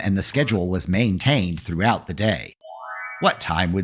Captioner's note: FX - Chime